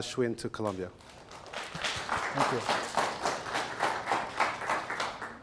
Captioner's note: audience applauds